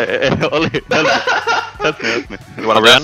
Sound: laughing

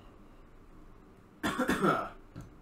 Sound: coughs

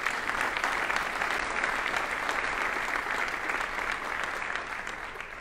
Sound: audience applauding

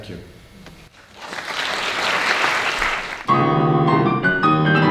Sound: audience applauding; piano music

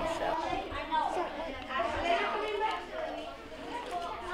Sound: children talking

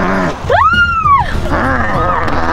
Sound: Lilly Screaming

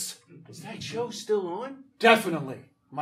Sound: audience laughing

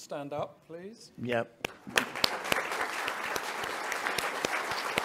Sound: audience applauding

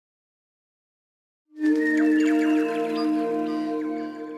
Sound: birdsong

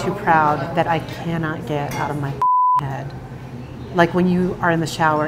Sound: beep

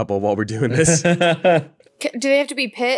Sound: laughs

